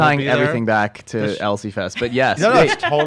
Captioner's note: laughs